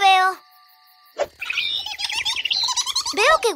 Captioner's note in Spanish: Sonido de pájaro